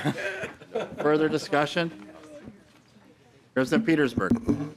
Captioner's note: laughing